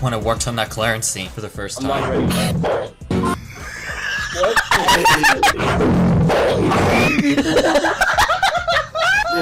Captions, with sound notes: when I worked on that Clarence scene for the first time. [ bass-boosted fart sound ] [ crew laughing ] [ bass-boosted fart, again ] [ crew laughter, again ]